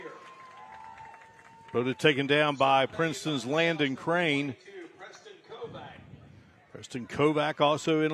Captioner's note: applause